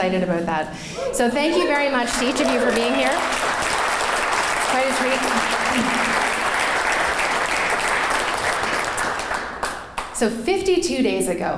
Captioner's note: clapping